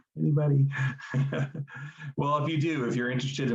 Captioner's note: laughing